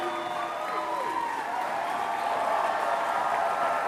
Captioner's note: applause